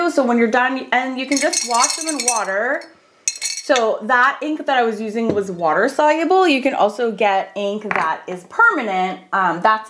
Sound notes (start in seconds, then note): 2.9 pen clangs